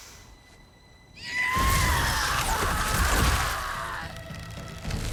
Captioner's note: scream